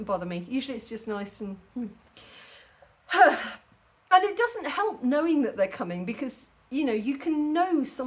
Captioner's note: sigh